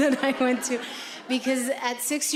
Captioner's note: audience laughing